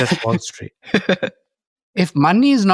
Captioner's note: chuckles